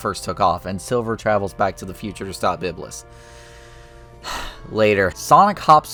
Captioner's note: sigh